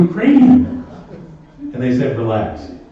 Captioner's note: laughter